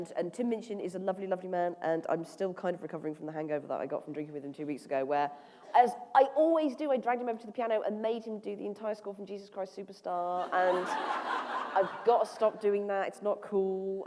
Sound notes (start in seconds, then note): 8.6 laughter